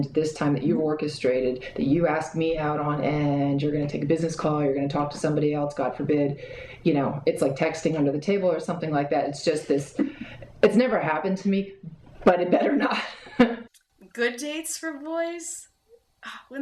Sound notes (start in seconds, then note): 12.6 laughing